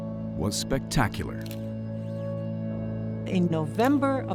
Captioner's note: camera shutter